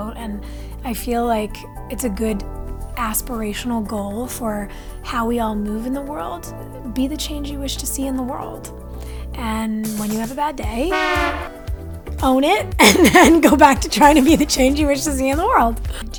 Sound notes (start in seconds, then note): 10.9 horn honk; 12.8 laughs